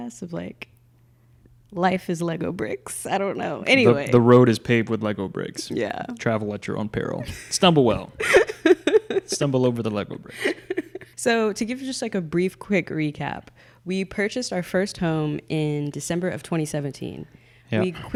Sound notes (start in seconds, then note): 8.1 laughing